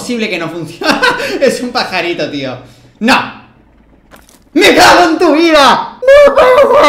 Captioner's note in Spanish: Risas